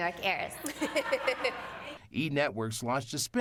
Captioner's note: laughing